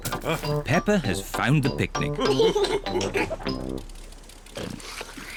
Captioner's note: all laugh